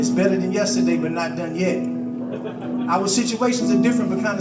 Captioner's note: audience laughs